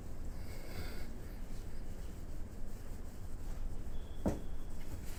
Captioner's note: custodian breathes; floor squeaks; window taps